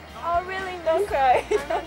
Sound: laughs

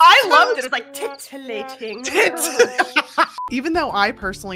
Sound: laughing

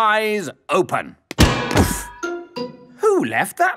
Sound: thuds

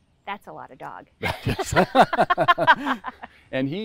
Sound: both laugh

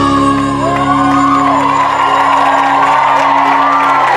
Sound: audience cheering

